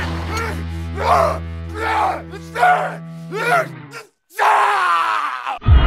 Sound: growling

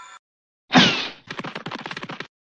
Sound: poof!

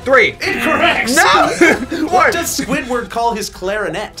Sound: laughs

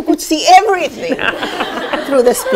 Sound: laughter

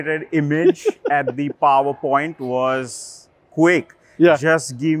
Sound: chuckling

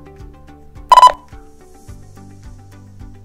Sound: beep Beep; upbeat music

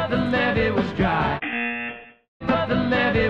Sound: buzzer

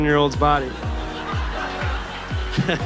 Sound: laughter

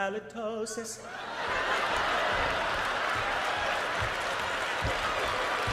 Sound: audience laughs

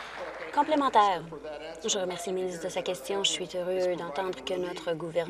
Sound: applause

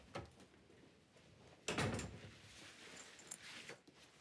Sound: door thuds

